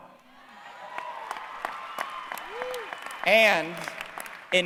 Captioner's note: applause